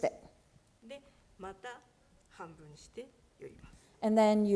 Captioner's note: speaking japanese